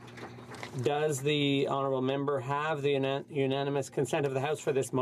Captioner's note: some Applause